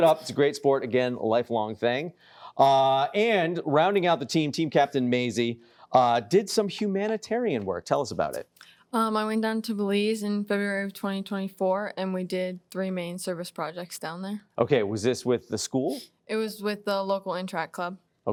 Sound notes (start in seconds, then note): none